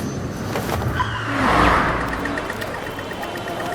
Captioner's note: airplane whooshing; tires screeching; car horns honking